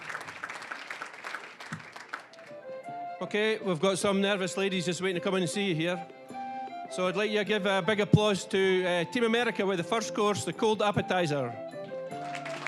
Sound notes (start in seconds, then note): 0.0 applause; 2.5 lively music; 3.6 with Scottish accent